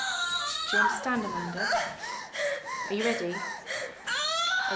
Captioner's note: panting